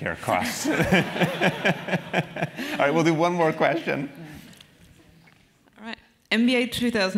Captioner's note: laugh